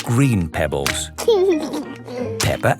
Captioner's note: laughing